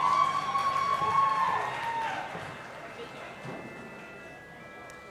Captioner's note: audience applauding and cheering